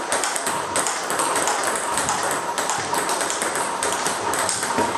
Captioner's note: ball ping pong hitting continues